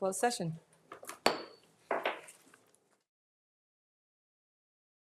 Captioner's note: gavel bangs